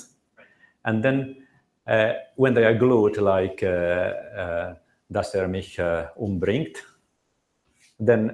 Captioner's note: german